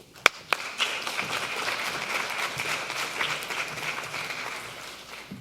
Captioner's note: audience applauding